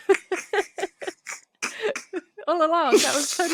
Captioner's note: laughter